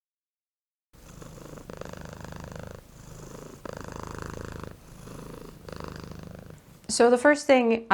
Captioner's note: cat purring